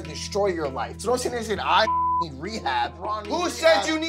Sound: beep

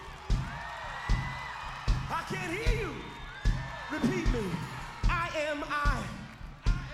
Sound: applause

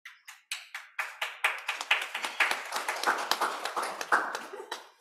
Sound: applause

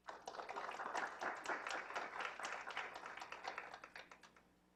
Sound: clapping

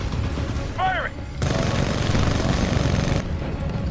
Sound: radio

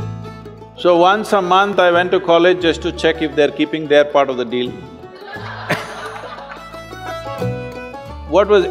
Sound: laughter

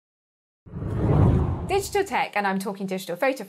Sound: hard whooshing

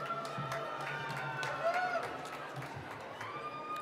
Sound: applause

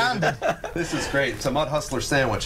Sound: laughter

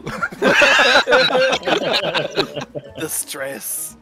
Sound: group laughter

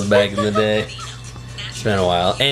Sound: laughs

